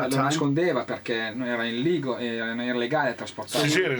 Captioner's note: speaking Italian